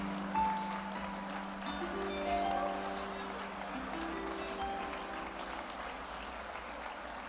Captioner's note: gentle music; audience applauding